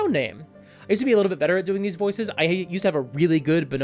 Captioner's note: normal voice